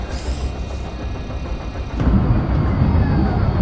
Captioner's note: sub whirring